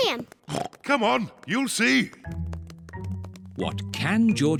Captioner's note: oinks